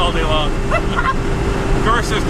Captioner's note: laughter